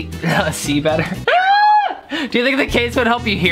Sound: laughs

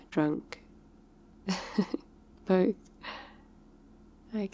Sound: laughs

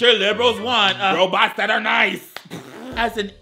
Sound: laughs

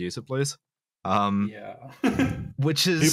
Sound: laughs

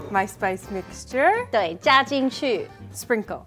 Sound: speaking in mandarin

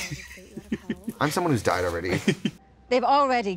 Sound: laughing

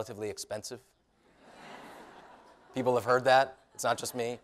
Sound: laughter

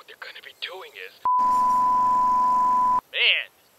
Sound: beeeeeeeep

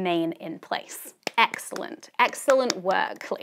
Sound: host clapping

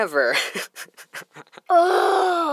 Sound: laughing

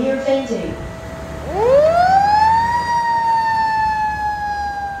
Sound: sirens blaring

